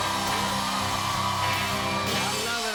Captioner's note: cheers and applause